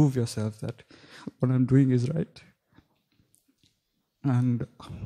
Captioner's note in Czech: smutným hlasem